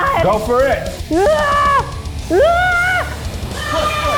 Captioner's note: screams